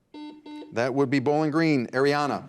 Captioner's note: buzzer beeps